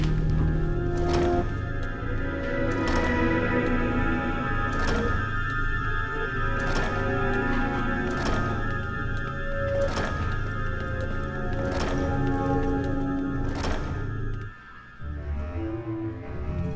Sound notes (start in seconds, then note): 4.7 door continues closing